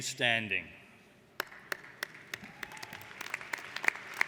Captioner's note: applauding